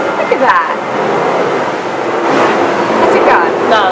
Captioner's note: plane noises